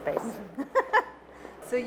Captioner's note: laughing